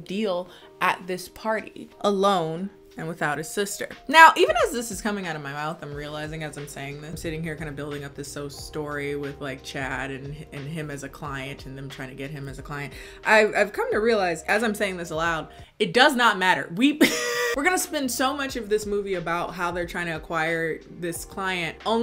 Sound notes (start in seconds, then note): 16.9 laughs